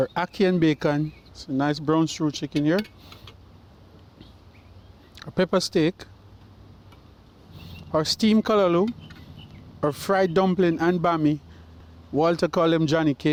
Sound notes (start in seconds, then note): 3.6 lid clanks; 7.3 birds chirp